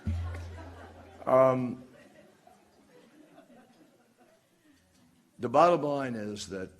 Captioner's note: laughter